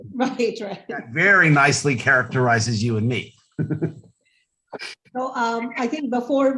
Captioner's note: chuckles